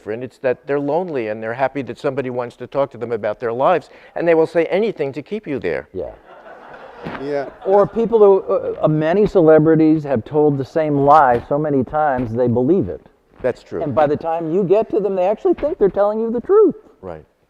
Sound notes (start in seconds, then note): 6.2 audience laughing